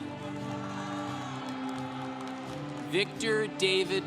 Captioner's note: congregation cheering